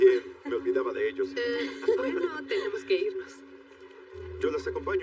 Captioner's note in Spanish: Ríe